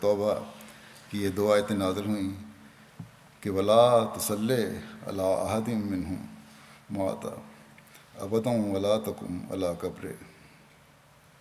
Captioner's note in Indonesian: Bahasa Arab